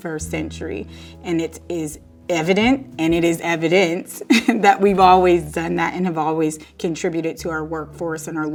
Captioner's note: laugh